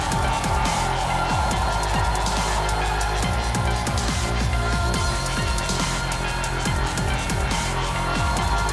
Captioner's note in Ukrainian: оплески